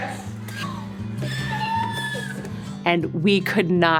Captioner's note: squealing